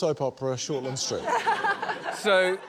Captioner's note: laughter